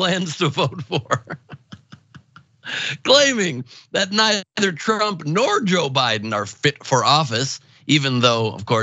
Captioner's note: laugh